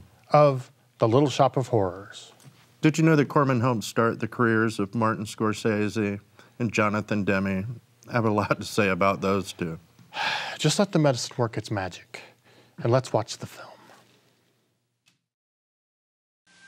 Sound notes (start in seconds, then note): 10.1 sighs